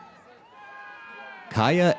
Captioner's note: audience cheers